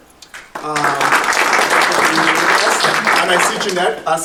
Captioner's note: audience applauding